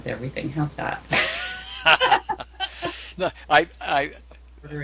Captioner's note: laughing